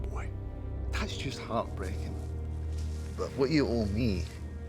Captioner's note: scottish accent